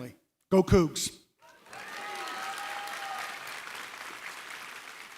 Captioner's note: cheering, applause